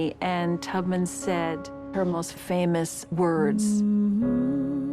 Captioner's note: woman humming underneath